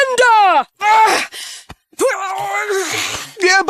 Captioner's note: struggling